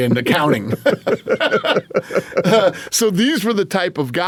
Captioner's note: both laughing